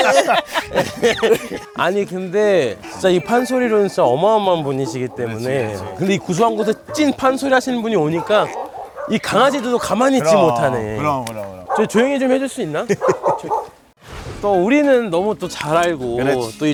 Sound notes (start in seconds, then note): 8.2 woof woof woof